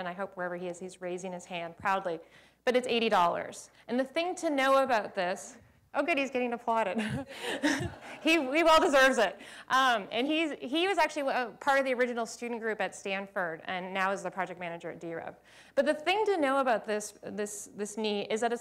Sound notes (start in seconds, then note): 7.0 laughter